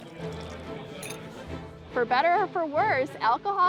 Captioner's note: liquor splashing; glasses clinking